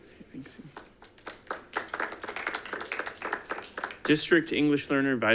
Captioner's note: audience applauding